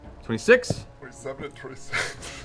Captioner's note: laughing